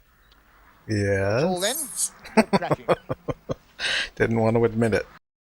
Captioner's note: laughing